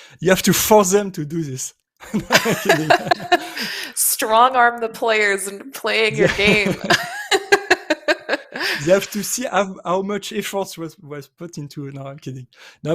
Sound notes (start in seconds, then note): 2.0 laughter; 6.1 laughter